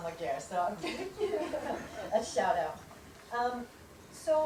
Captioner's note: chuckles